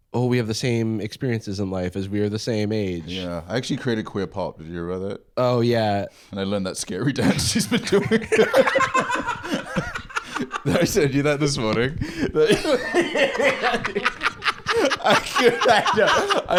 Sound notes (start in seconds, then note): 8.6 both laughing; 12.6 both laughing